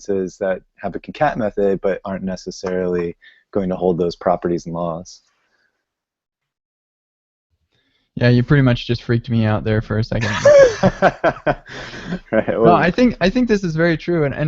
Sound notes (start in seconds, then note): 10.2 laughing